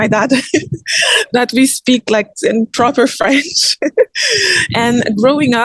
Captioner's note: giggles